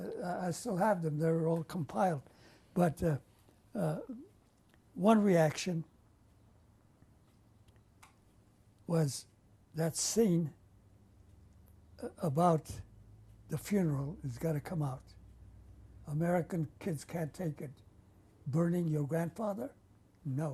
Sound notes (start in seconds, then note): 5.4 pauses for 3 seconds